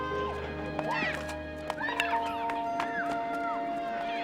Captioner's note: children shouting